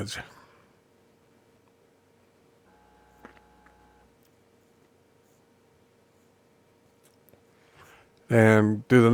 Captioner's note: silence